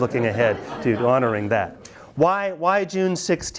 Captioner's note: students laugh